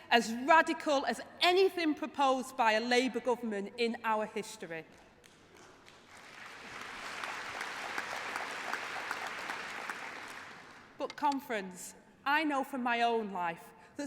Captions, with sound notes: policy - [Applause] - a policy as radical as anything proposed by a Labour government